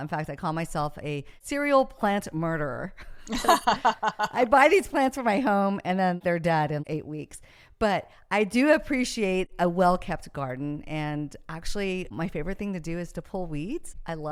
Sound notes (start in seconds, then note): 3.2 laughs